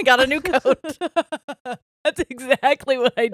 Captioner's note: all laughing